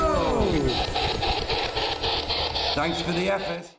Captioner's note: machine static